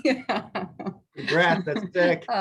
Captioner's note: yells; laughs